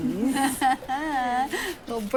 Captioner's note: mock laughter